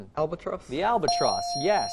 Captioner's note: bell dings